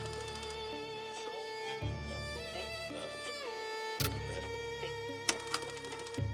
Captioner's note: projector clattering; gentle pensive music; radio stations changing; projector clattering